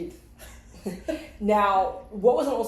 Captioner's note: both women chuckle